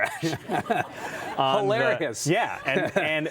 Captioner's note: audience laughs